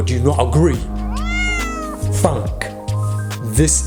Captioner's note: cat meowing